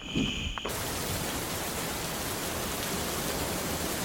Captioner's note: rain pattering